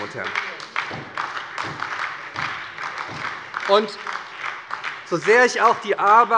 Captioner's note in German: Beifall bei der SPD